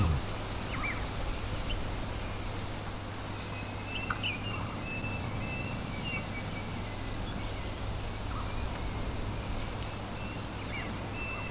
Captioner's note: birds chirping